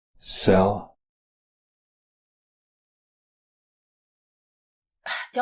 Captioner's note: long silence